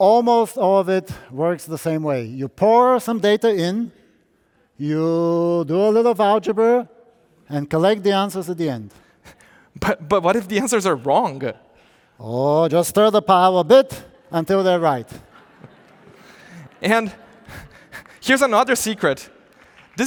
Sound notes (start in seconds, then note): 15.1 audience laughing